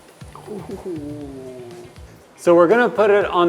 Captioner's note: grunting softly